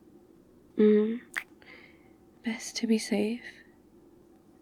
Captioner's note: kiss